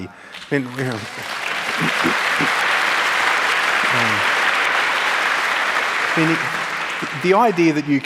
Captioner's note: applause